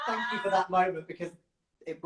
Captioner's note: laughs